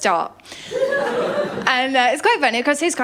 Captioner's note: laughter